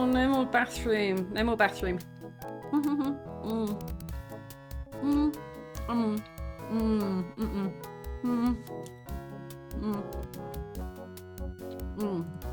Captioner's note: muffled eating